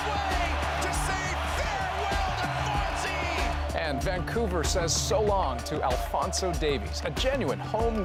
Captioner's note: cheers and Applause